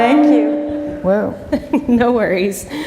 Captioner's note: laughter